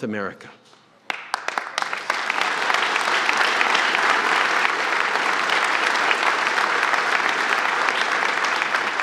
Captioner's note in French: Applaudissements